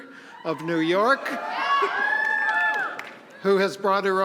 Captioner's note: audience cheering